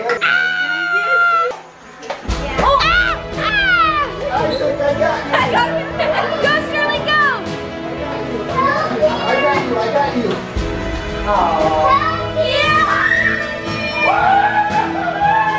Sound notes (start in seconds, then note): 0.3 yelling; 12.7 yelling